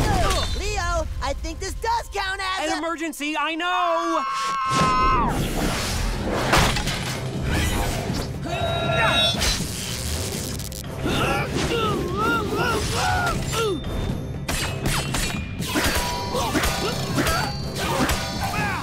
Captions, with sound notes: Leo, I think this does count as-- An emergency, I know! [screaming] [grunting] [grunting] [grunting]